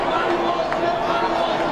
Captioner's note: cheering